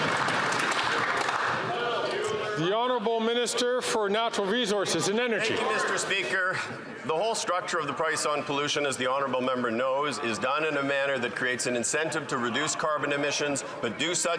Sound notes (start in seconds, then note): 0.0 some Applause